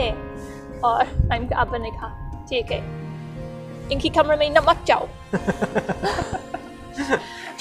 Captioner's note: both laughs